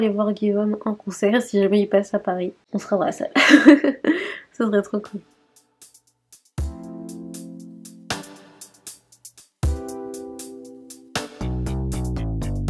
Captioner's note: laughs